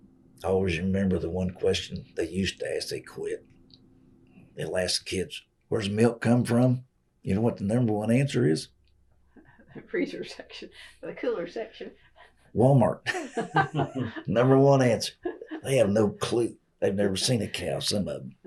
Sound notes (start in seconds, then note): 13.0 laughter